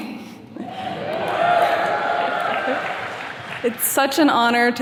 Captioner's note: attendees cheers and claps